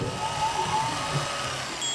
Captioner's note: whirring